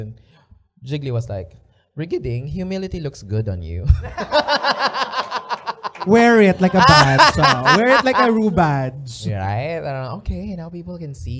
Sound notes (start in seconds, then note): 4.0 laughter